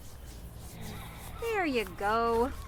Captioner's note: deep breath